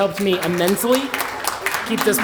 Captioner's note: applause